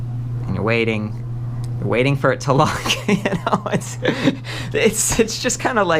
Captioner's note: laughs